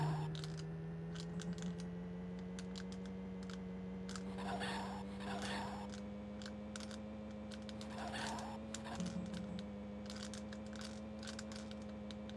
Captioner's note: typing